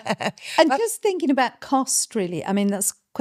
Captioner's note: laughing